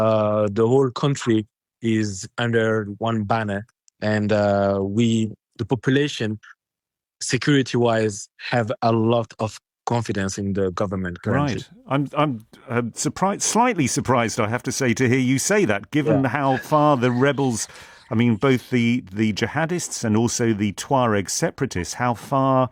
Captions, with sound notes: uh, the whole country is under one banner and, uh, we, the population, security-wise, have a lot of confidence in the government currently. Right. I'm, I'm, uh, surprised, slightly surprised, I have to say, to hear you say that- Yeah [laughs] ... given how far the rebels, I mean, both the, the jihadists and also the Tuareg separatists, how far,